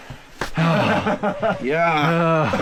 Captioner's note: hand claps; coughs